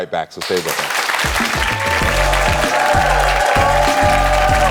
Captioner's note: audience cheering